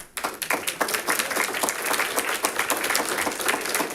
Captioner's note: audience applauding